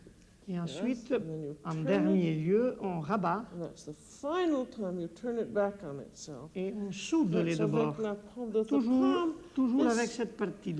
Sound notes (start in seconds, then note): 6.2 conversing in French